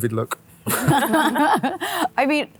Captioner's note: all laughing